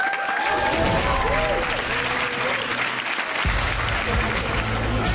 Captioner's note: audience claps and cheers